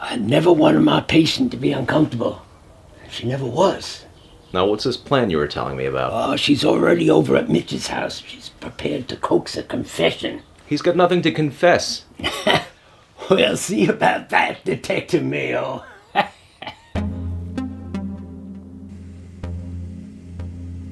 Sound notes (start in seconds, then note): 12.5 laughs; 16.9 pensive synth music